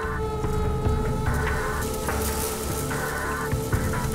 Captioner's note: eerie techno music; locusts fluttering